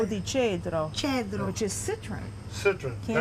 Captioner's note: speaking Italian